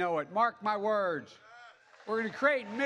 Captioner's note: applause